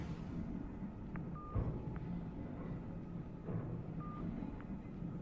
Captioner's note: phone beeping